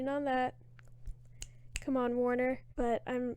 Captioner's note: snaps